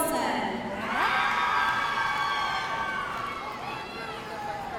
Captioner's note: audience cheering